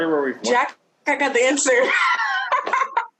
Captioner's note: laughs